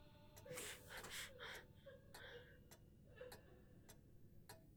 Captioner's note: Catherine gasping